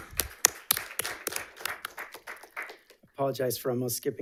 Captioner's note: all applauding